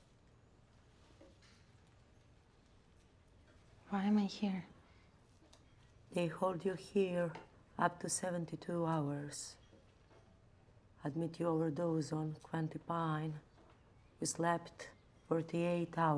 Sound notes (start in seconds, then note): none